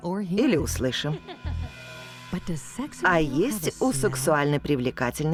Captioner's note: laughs